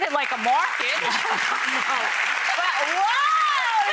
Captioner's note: audience applauds